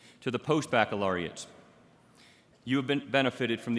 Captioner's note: none